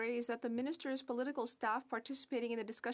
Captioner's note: speaking French